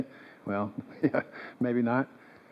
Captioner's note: chuckles